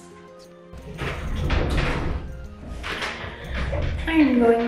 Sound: chair rolling

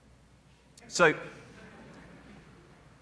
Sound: laughter

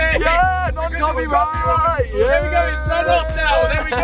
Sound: all mumbling

